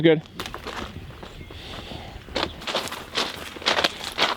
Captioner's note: branches crunching